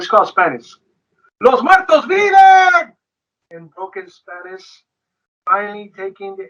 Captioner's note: speaks foreign language